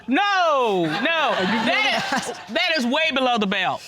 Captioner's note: audience laughing